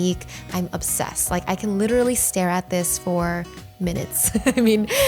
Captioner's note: laughs